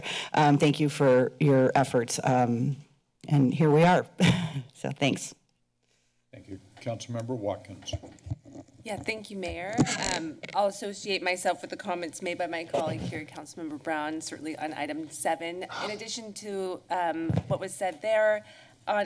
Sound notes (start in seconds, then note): 4.2 chuckles